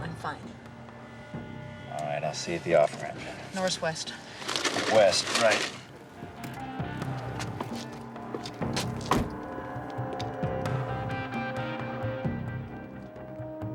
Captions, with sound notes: I'm fine. - All right, I'll see you at the off ramp. - Norris West. - West, right. (car door slams) (suspenseful music)